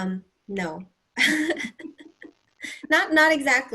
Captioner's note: laughter